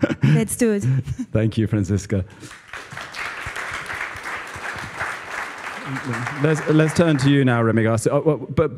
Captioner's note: applause